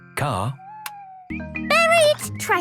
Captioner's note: car lights click off